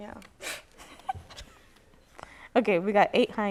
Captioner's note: laughter